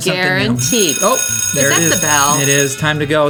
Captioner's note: school bell ringing